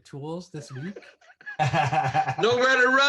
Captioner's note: laughter